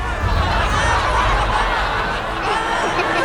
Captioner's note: laughter